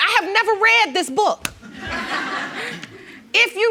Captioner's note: audience laughing